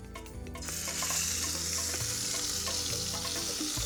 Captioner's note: pan sizzling